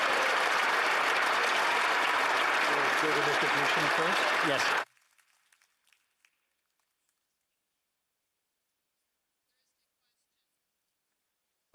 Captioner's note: applause